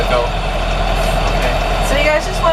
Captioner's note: exhale